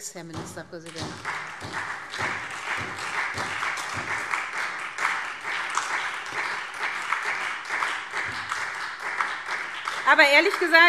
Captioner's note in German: Beifall SPD und Freie Demokraten